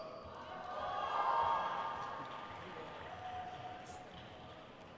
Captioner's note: crowd cheers